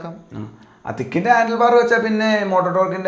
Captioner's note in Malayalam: തൊണ്ട ശരിയാക്കുന്നു